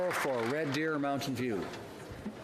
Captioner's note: some Applause